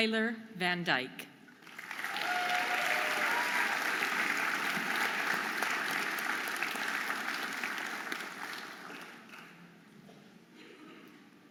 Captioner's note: audience applauding and cheering